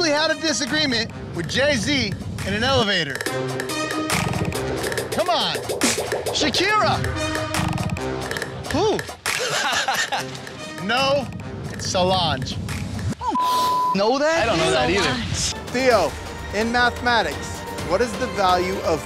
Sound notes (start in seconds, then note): 9.2 laughs; 13.3 beep